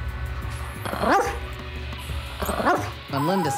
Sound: dog barking

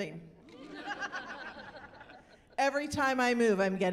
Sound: laughing

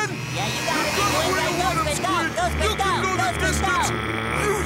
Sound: cheering

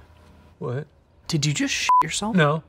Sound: beep

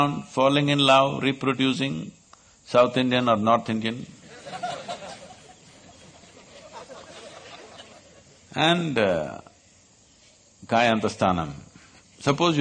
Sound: laughter

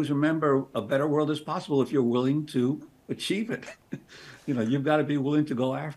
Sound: chuckles

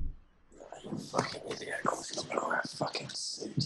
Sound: arguing with himself

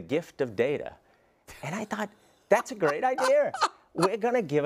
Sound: laugh

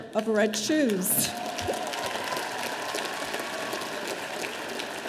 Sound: audience applauding

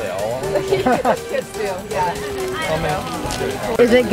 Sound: chuckles

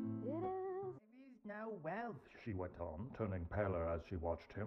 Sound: Audiobook of Dicken's "Dombey and Son" playing in background

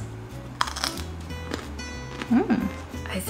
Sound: stem crunching

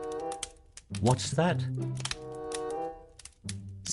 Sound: sound of rustling in the bushes

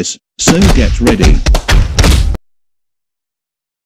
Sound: punches landing

